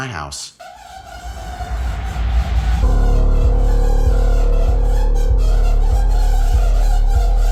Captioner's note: ominous music; dryer squeaking and rattling